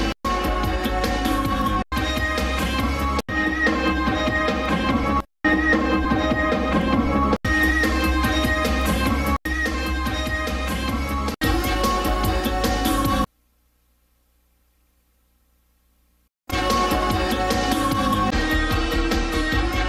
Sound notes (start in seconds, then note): 0.2 music continues playing in music snippets; 13.2 silence; 16.5 music resumes playing in music snippets